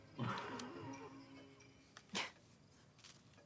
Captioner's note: Ewald laughs